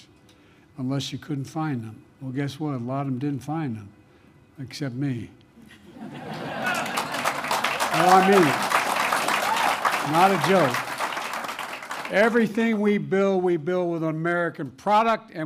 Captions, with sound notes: unless you couldn't find them. Well, guess what? A lot of them didn't find them, except me. (Laughter and applause) No, I mean it. Not a joke. Everything we build, we build with American product